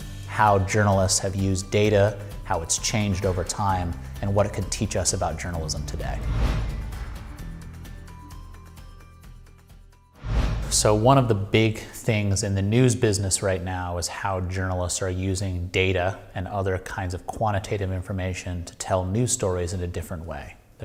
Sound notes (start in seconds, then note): 5.6 air whooshing; 8.3 upbeat music